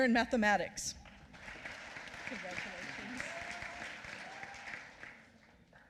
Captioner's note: applause